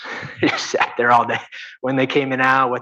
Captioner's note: chuckles